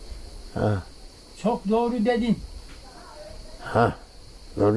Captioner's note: in black sea region accent